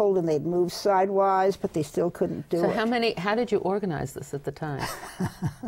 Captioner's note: laughs